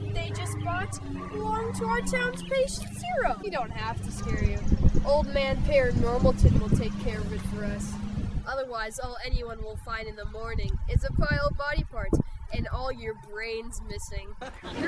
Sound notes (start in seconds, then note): 14.4 audience laughing